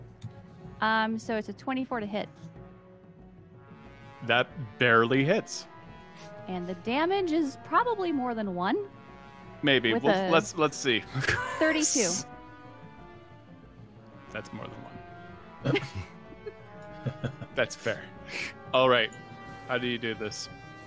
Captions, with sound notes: - So it's a 24 to hit. - That barely hits. - And the damage is probably more than one. - Maybe, let's see. (laughs) - 32. - That's more than one. (all laugh) That's fair, all right, how do you do this?